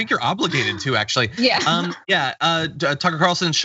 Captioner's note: laugh